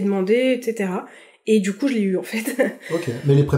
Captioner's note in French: rire